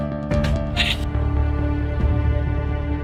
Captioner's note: ugh